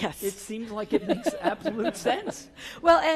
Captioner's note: laugh